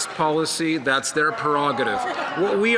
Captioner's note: some Applause